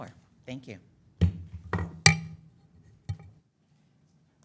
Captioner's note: gavel pounding